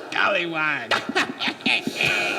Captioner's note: Fungo cackles